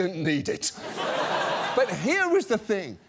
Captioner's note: studio audience laughs